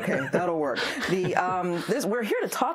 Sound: laughs

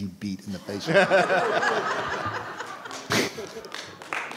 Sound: all laughing

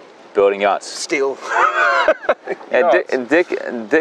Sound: laughs

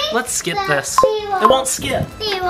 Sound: remote beeping

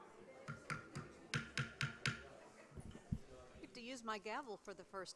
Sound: gavel banging

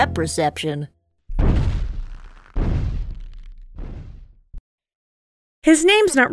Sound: big stomps

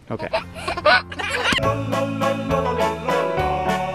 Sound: giggling

